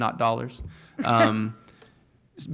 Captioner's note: chuckle